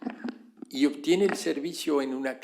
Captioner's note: spanish